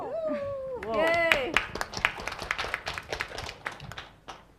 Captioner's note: cheering; applause